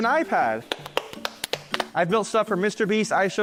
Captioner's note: clapping